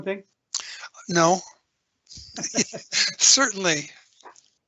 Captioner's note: laughing